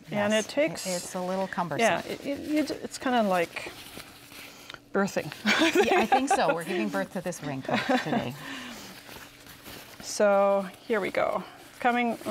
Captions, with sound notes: Yes, it's a little cumbersome. It's kind of like birthing. I think so! We're giving birth to this raincoat. [both laugh] Here we go.